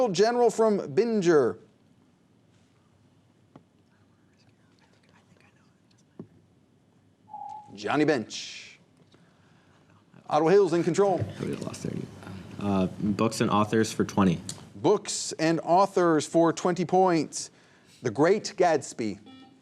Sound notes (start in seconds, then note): 4.5 whispers; 7.6 ringing